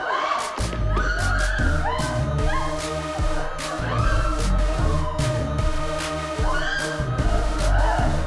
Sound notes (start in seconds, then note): 1.0 both screaming; 5.4 upbeat music